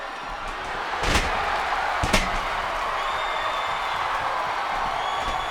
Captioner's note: audience cheers